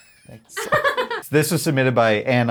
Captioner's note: laughs